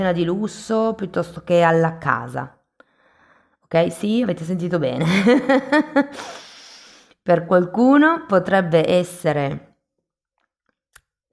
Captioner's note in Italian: risate